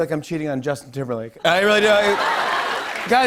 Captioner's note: laughter